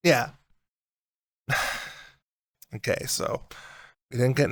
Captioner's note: sigh